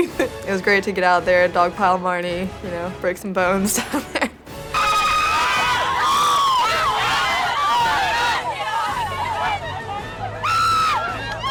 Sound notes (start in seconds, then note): 3.7 laughs; 4.6 girls scream and cheer